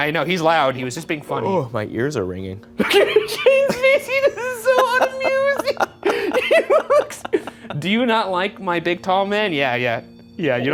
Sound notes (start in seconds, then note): 2.8 Ryan laughing; 5.3 laughing